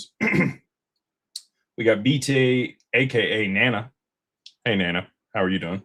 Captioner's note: clears throat